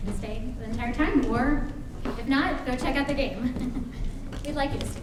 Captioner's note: chuckles